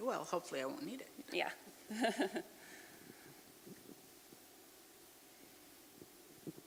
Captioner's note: chuckles